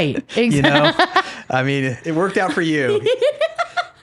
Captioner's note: laughing